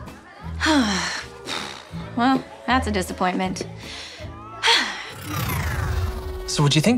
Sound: sighing

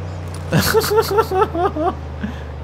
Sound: laughs

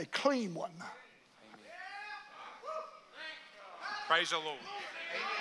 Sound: congregation cheers

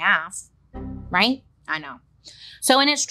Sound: computer error chimes

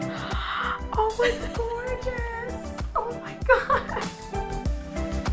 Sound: gasps

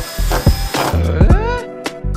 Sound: Tim Allen Home Improvement grunt; lo-Fi theme music

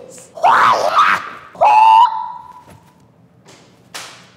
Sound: screams

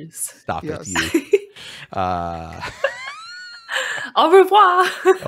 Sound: laughs

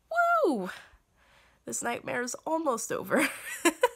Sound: laughter

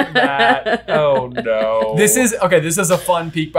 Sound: laughing

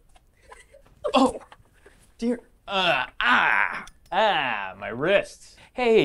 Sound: groans

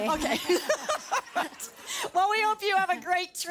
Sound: laughter

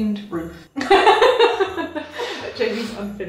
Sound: laughing

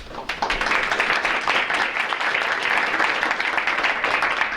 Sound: audience applauding

